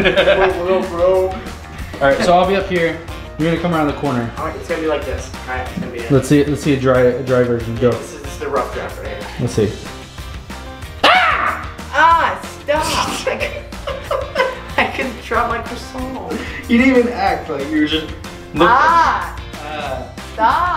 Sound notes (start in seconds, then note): 11.0 screaming; 12.9 laughing